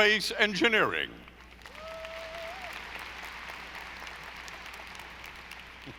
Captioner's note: audience applauding